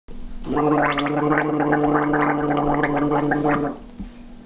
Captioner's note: gurgling